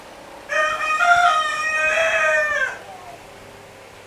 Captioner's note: the rooster crowing continued